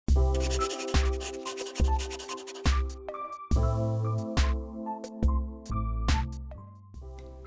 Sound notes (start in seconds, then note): 0.3 upbeat Music; 0.3 pencil Scribble SFX